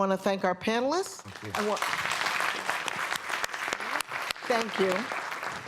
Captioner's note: applause